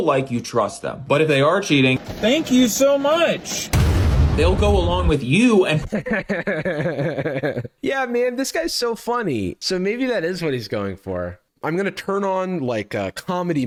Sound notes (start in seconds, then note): 1.8 explosion; 5.7 laughs